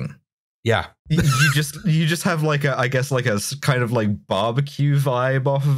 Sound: laughter

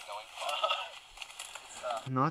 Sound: laughter

